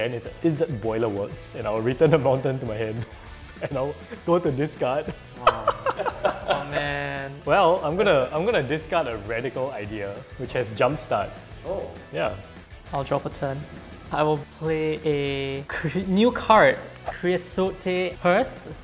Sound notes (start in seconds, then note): 5.1 laughs